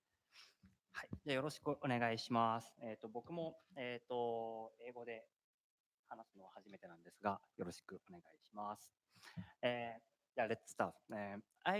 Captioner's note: speaking japanese